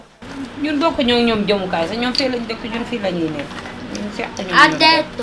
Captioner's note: lady speaking Wolof